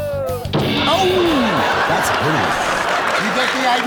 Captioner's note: crashing